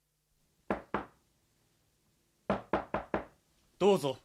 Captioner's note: SFX: knocking on the door